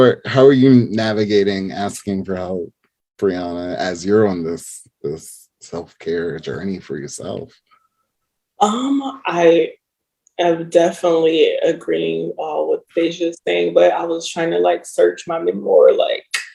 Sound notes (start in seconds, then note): none